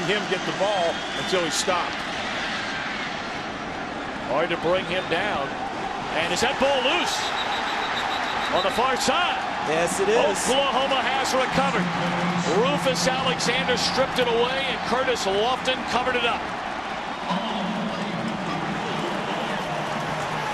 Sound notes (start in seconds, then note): 7.2 whistle; 16.7 crowd cheering